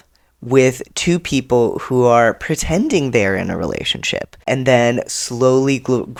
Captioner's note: none